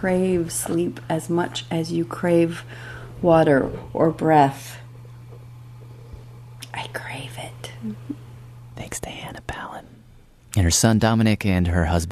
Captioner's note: whispers